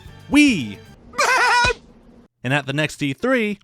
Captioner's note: laughs